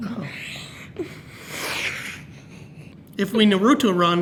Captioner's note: laughs